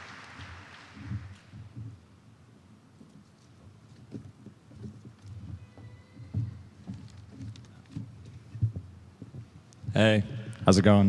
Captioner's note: applause